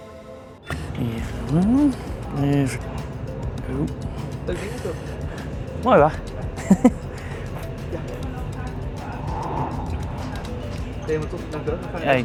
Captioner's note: speaking Dutch with the guard